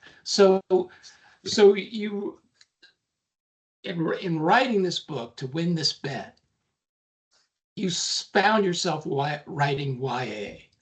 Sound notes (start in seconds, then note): none